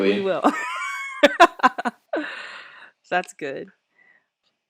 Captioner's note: laughs